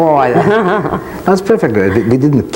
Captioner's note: laughs gently